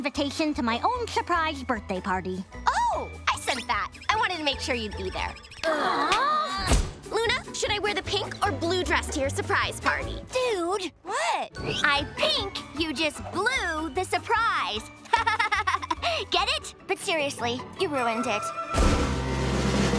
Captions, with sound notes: to my own surprise birthday party. Oh, I sent that. I wanted to make sure you'd be there. [siblings groaning] Luna, should I wear the pink or blue dress to your surprise party? - Dude. - What? I think you just blue the surprise. [laughing] Get it? But seriously, you ruined it. [drumroll]